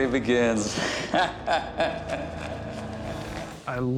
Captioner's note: laughing